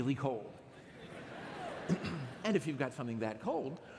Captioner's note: laughter